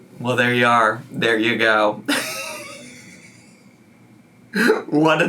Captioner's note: laughs